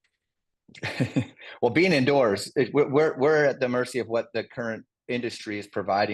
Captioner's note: laugh